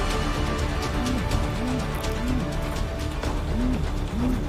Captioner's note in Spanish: Vibra el celular